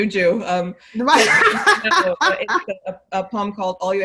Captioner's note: laughing